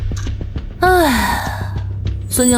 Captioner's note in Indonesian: Menghela napas